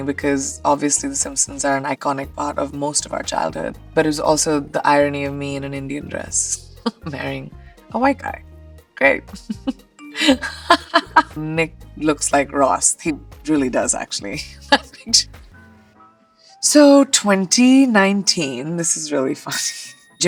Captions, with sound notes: because obviously "The Simpsons" are an iconic part of most of our childhood. But it was also the irony of me in an Indian dress marrying a white guy, great! [chuckles] Nick looks like Ross. He really does actually. [laughs] So 2019, this is really funny.